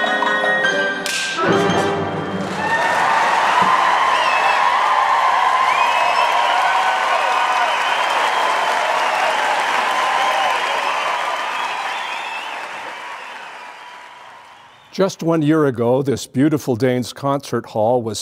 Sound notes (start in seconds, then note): 2.4 cheering